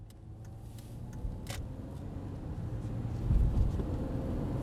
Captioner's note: car engine roaring